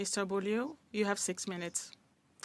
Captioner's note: speaking French